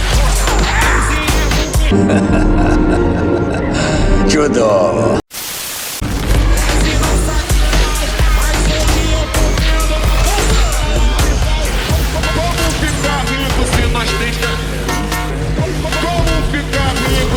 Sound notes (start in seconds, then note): 1.9 laughter